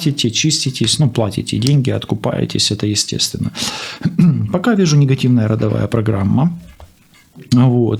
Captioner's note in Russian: откашливается